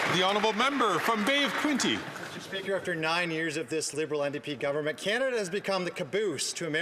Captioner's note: some Applause